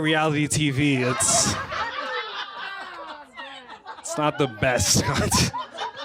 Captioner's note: laughter